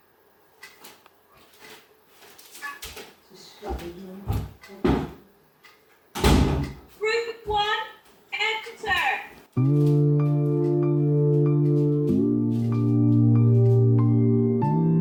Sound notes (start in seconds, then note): 6.1 door slam; 9.5 mellow music